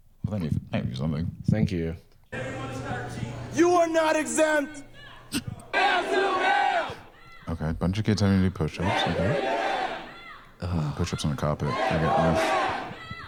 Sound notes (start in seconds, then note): 5.4 all doing a call-and-response chant